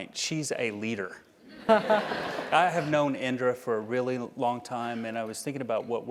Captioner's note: laugh